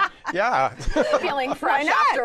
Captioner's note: laughs